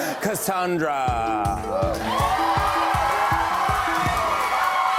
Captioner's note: cheers and applause